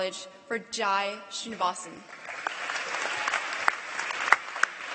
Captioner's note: applause